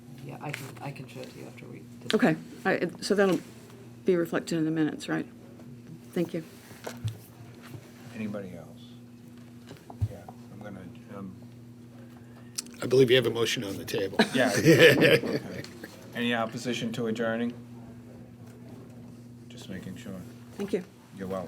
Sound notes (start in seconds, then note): 14.1 board members laughing